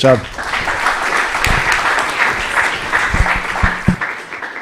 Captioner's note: applause